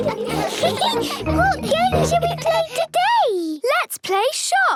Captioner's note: giggles